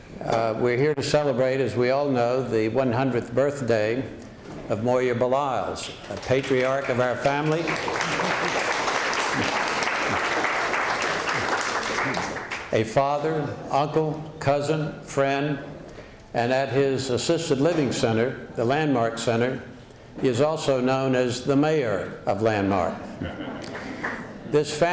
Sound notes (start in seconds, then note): 8.1 applause